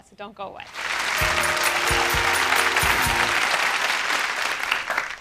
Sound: audience applauds

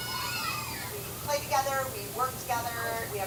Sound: kids cheering

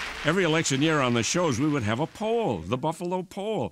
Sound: applause

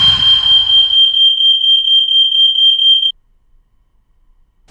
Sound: fire Alarm Rings

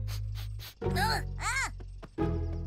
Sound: sniffs

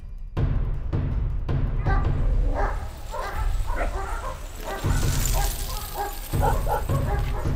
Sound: dogs barking and growling; fast-paced drumming

